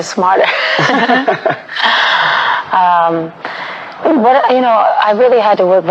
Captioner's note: laughing